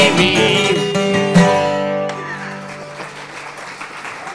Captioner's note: audience clapping